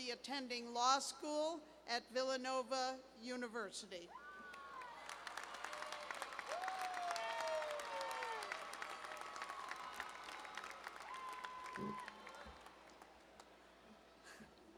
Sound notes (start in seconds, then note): 7.5 applause